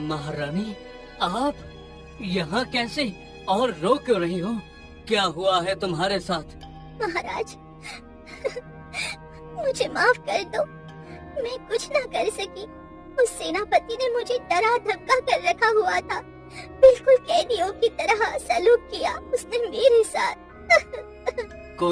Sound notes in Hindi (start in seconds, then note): 8.4 हंसी; 20.7 रोने की आवाज़